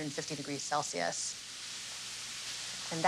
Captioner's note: sizzling